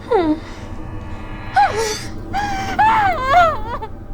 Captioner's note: screaming